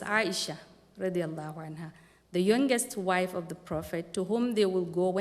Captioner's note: non-english speech